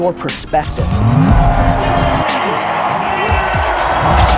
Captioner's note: airplane engine roars; audience cheers